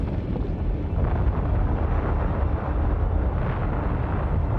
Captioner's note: eruption echoing